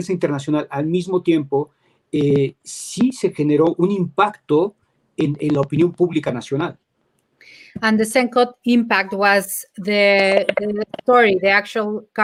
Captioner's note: speaking in Spanish